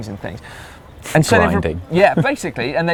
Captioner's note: laughs